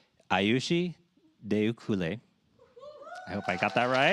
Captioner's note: cheers, applause